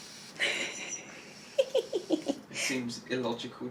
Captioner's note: laughing